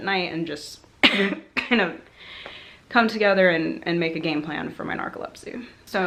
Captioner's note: cough